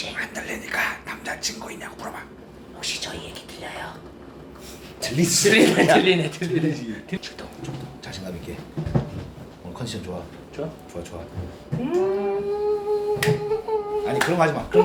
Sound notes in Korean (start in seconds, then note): 5.5 피식